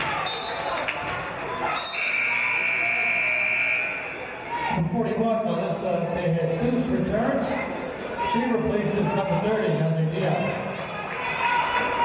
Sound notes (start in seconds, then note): 1.7 referee's whistle; 1.8 buzzer